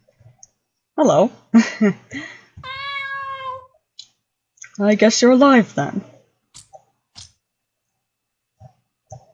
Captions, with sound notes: Hello. *nervous laugh* *statue meows again* Well I guess you're alive, then.